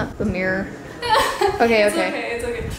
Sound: laughs

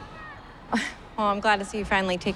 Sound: chuckling

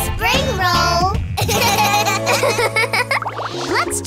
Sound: laughing

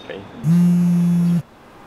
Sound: phone buzzing

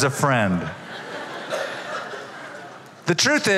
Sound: laughter

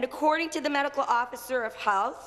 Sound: none

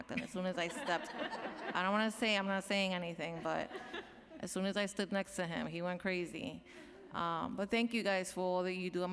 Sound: laughter

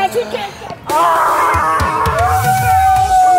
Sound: screaming

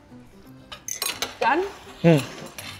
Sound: cutlery clattering

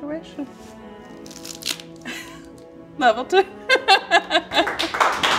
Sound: laughs; production crew clapping

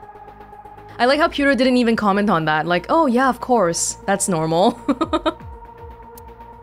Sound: chuckles

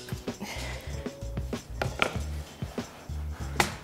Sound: sighs

